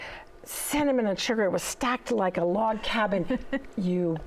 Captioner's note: chuckles